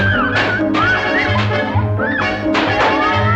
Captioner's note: riders screaming; balloons popping